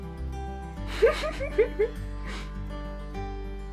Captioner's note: giggles